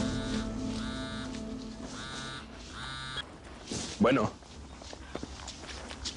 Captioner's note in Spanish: Suena el celular